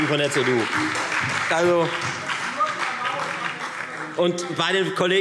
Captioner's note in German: Beifall Freie Demokraten und SPD